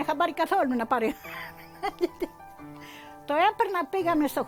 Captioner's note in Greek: γέλια